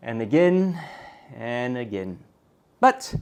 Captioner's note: sigh